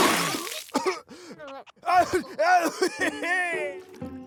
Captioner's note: choking; laughing